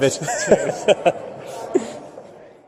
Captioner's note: laughs